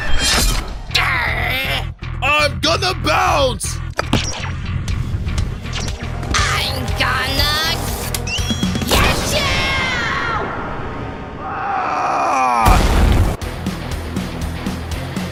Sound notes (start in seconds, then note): 0.1 loud crash; 3.9 jumping sound; 8.2 jumping sound; 11.3 Blocky screaming; 12.6 loud thud; 12.6 intense rock music